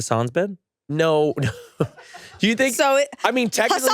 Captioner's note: laughs